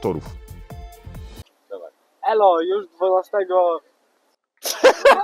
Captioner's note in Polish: śmiech